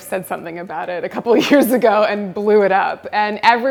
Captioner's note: laughs